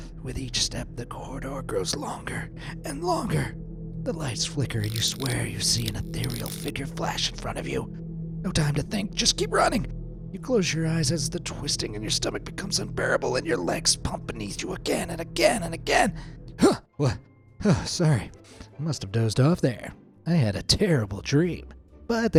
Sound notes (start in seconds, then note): 16.7 sharply exhales